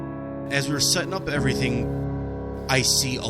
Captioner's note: voice over, male